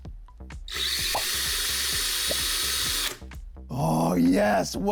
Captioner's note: motor revving